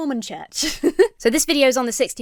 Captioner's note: giggles